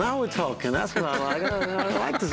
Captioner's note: laughs